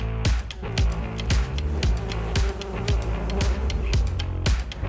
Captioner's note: bees Buzzing